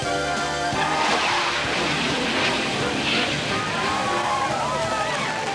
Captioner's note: jet engine roaring